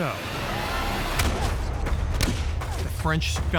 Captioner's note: gunfire